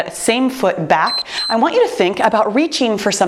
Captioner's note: timer beeps